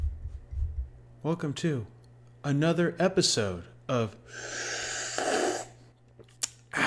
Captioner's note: slurping